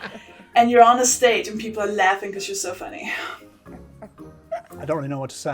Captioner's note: chuckles